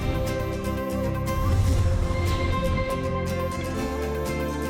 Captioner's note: upbeat vibrant music; page swishing; upbeat vibrant music